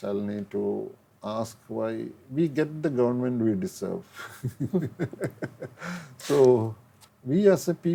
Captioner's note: bursting into laughter